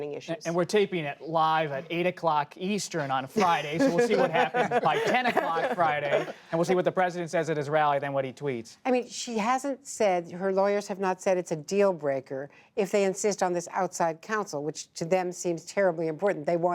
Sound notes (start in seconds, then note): 3.4 laughter